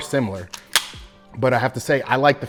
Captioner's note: slide clicking